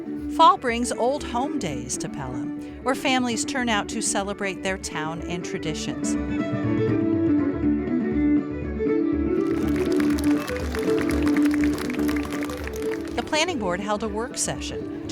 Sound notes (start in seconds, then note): 5.7 fiddle music; 9.4 applause